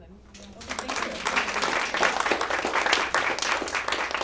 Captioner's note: applause